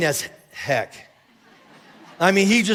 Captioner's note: congregation laughing